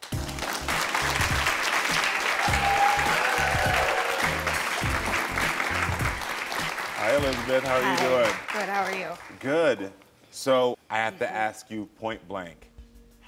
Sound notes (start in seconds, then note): 0.2 crowd clapping; 0.2 upbeat music; 2.6 crowd cheering; 2.6 upbeat music